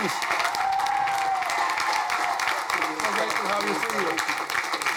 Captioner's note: crowd cheering